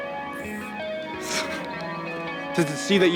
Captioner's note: snorting